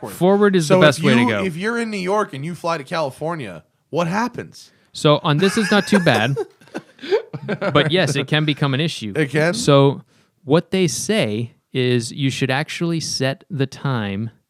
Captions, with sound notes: >>:Forward is the best way to go. >>:So if you're in New York and you fly to California, what happens (laughter)? >>:So on this, it's not too bad. But, yes, it can become an issue. >>:It can? >>:So what they say is you should actually set the time